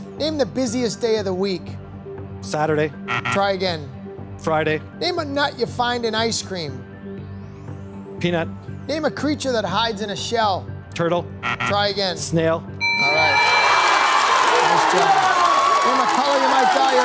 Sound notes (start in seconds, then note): 3.0 beep, beep; 12.8 beep, beep; 12.8 bell dings